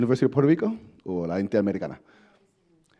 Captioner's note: speaks foreign language